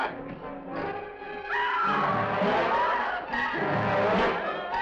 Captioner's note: Janine screams